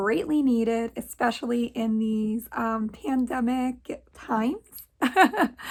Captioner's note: laughs